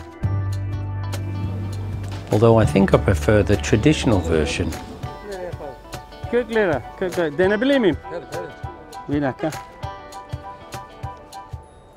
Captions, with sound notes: Although I think I prefer the traditional version. (speaks foreign language)